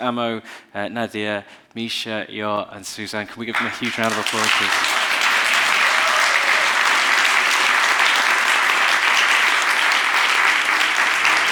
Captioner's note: applause